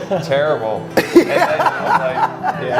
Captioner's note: laughs